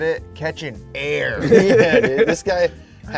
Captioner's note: all laughing